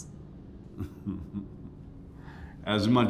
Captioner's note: chuckling